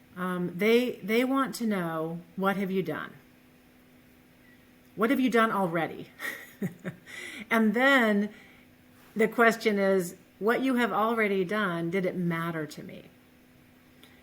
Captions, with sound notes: They want to know what have you done. What have you done already? (laughs) And then, the question is what you have already done, did it matter to me?